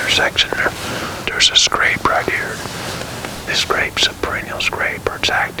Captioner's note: whispering